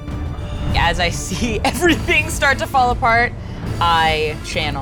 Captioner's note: chuckling